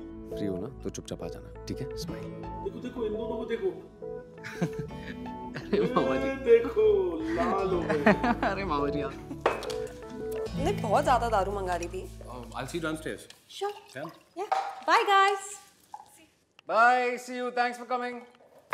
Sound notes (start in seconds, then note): 4.4 Veer laughing